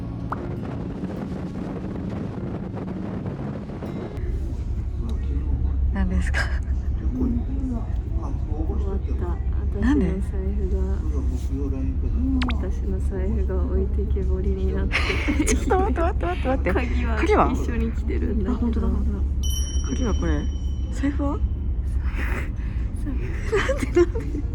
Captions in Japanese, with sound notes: Cape Sada Lighthouse, the westernmost point of Shikoku, was visible. What is it? (laughs) 'm so f**ked My wallet... My wallet is being left behind... The keys are coming with me... *Mariko sometimes loses valuables, so she keeps an AirTag.